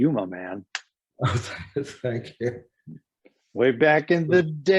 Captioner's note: laughs